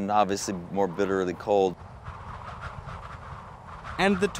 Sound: wind howling

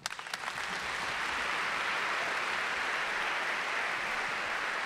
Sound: audience clapping

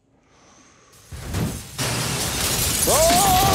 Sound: lighter clicking; rubble falling; glass smashing; screaming

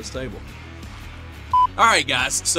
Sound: beep

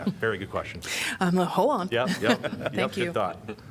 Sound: laughter

